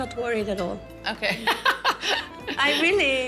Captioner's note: laughs